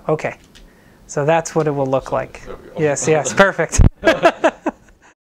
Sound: laughter

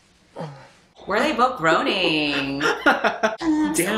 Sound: laughs

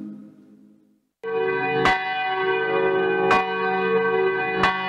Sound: bells dinging

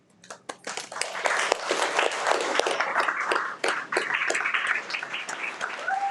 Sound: everyone applauds and cheers

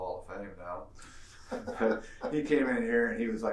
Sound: laughing

